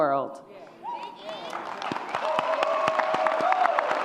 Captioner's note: audience cheers